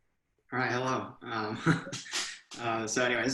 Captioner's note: laughing